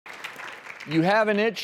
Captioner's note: audience applauding